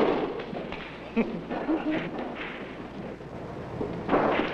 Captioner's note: Johnny giggles